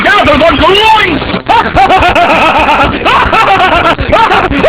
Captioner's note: cackling maniacally